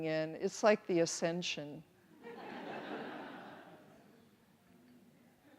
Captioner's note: audience laughs